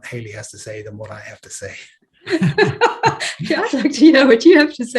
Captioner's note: panellists laughing